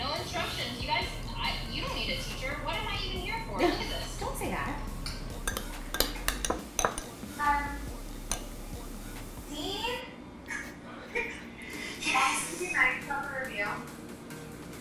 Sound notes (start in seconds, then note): 5.4 utensils clattering; 11.0 laughs